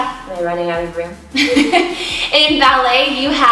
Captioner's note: laughs